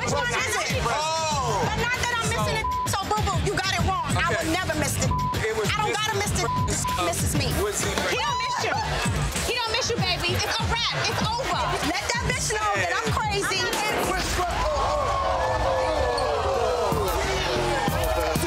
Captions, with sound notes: - Which one is it? But not that I'm missin' the (beep). So boo boo, you got it wrong. I would never miss the (beep). I don't gotta miss the (beep). His (beep) misses me. - He don't miss you. He don't miss you, baby. It's a wrap. It's over. - Let that bitch know that I'm crazy. (crowd gasping)